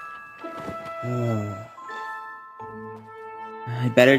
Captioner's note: Fuu2 gasps; Luke sighs